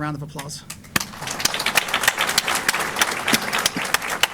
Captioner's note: applause